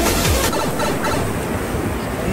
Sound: mario tunnel sound

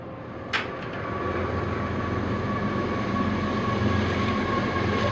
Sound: a train passes by intensifying

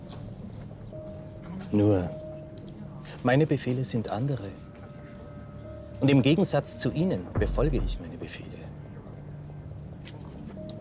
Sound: speaks in foreign language

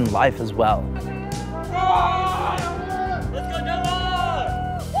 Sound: campers cheering

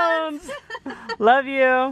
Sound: laughing

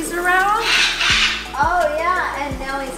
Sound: Brando squawks

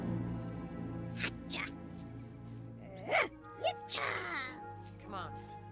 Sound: Speaking Ewokese

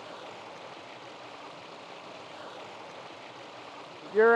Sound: water rumbling

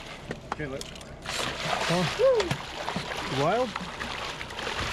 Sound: fish splashing

